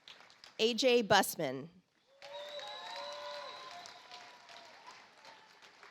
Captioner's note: audience applauds